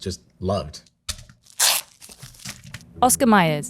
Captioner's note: plastic rustling; package thunks